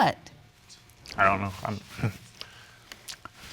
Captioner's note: chuckles